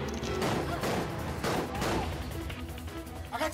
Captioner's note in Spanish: detonaciones de disparos